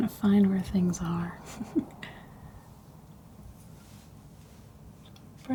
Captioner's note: chuckles